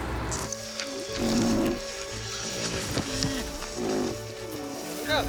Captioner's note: rhino grunting